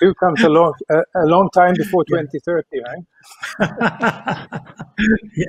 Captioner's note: laughing